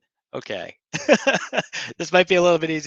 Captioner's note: laughing